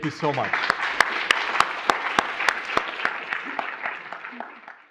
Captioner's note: audience clapping